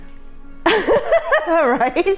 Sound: speaker laughing

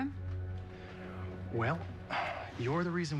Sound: sighs

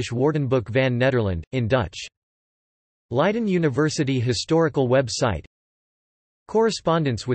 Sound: in Dutch

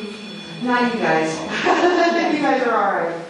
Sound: laughs

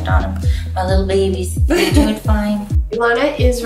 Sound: laughs

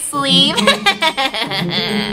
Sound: laughs

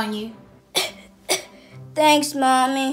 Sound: coughing noises

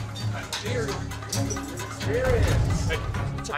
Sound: loud chatter

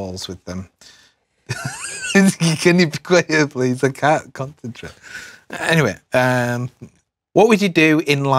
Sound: laugh

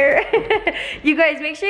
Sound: laughing

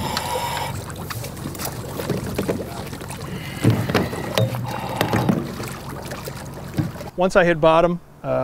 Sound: natural sound getting into the water

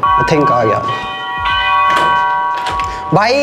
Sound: door Bell

